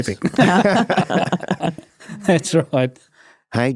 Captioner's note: laughter